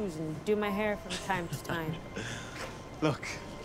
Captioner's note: laughing